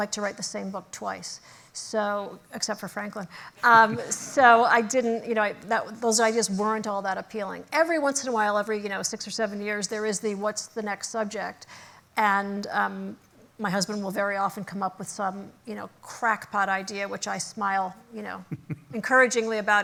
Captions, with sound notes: to write the same book twice, except for Franklin. [LAUGHTER] So those ideas weren't all that appealing. Every once in a while, every six or seven years, there is the what's the next subject. And my husband will very often come up with some crackpot idea which I smile encouragingly about